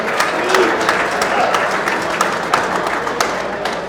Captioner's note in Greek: το κοινό χειροκροτεί